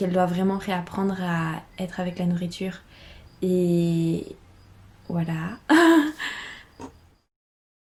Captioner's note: laughs